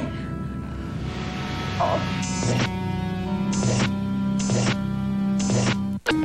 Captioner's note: groans